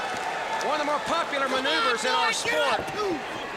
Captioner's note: crowd chatter